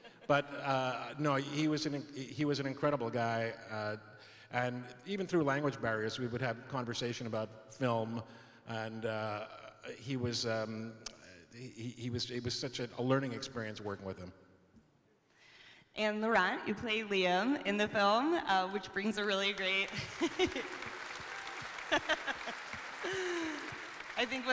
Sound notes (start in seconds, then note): 19.9 audience applauding and cheering; 20.0 laughs